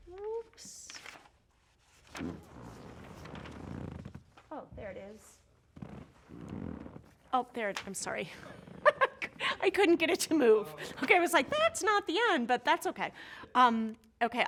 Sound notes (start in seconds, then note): 0.7 papers rustling; 8.8 chuckles